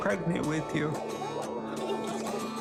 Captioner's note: chuckling